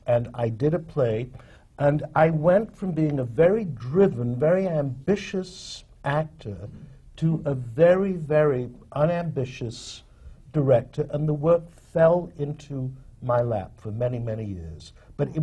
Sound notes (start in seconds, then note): none